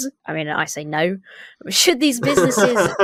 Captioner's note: laughs